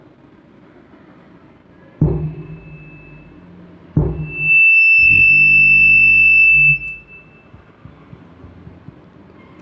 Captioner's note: feedback